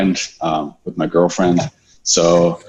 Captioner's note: laughing